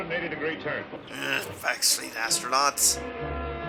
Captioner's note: grumbling